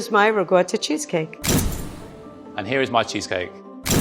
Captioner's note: camera shutter clicking; camera shutter clicking